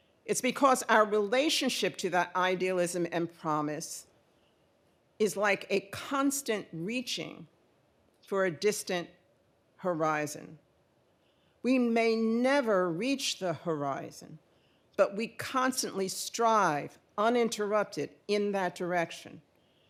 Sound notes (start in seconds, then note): none